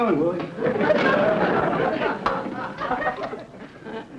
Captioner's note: audience laughter